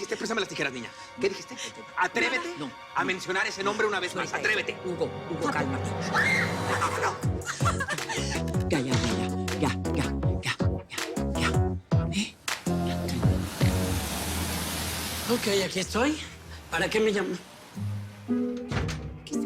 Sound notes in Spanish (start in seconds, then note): 6.0 Grito; 6.5 Sollozo